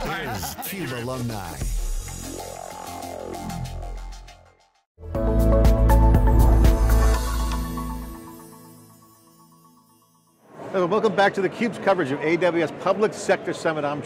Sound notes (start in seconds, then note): 2.9 tech vibration; 5.0 cheerful tune